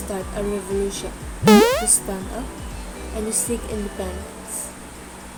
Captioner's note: bouncing sound